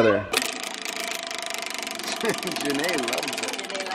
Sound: wheel turning

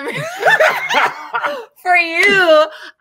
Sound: both laugh

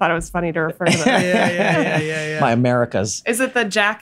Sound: Glenn laughs

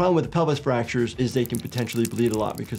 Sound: liquid pouring

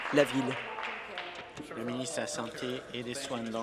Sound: applause

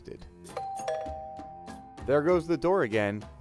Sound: doorbell rings

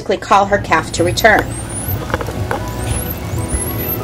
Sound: dolphin whistling

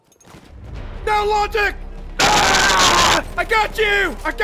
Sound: screams

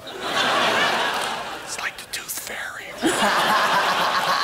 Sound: whispers

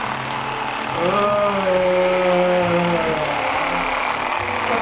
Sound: groans

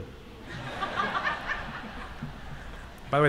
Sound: laughter

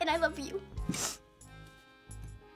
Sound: sniffles

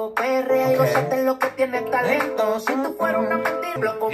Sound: hums along

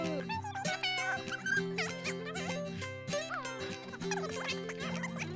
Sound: audio fast forwarding as music plays

